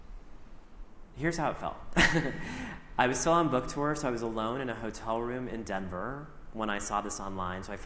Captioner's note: chuckles